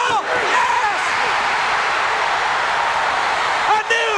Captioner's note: audience cheering